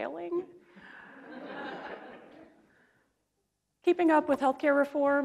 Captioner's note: audience laughs